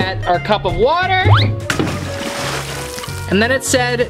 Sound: water pours out

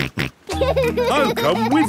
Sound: snorts and laughs

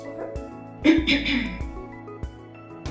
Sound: coughing

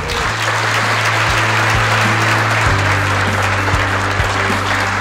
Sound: loud applause

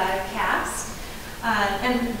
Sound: none

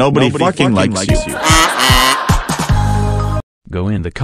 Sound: laughter

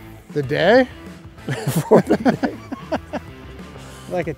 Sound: both laugh

